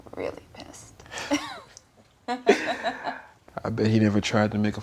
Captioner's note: both laughing